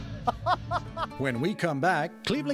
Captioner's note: laughing off-screen